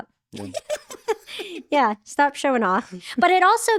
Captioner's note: laughing